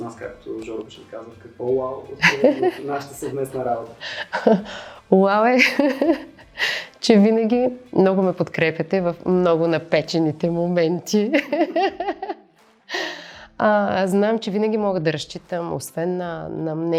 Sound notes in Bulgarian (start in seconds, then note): 11.3 смее се